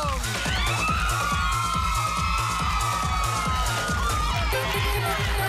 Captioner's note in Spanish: Aplausos; Exclamaciones